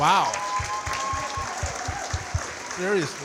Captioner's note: audience cheering and clapping